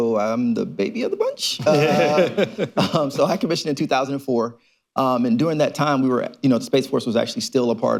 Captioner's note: laughter